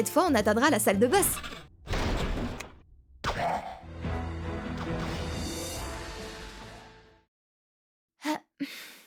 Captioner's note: combat sounds